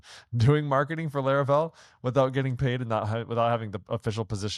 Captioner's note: laughs